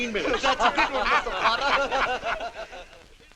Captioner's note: all laughing